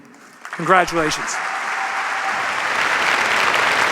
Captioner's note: applause